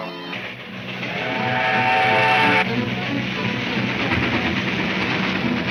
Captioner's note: dramatic music; train whistle trumpets